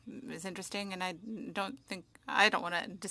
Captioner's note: speaking French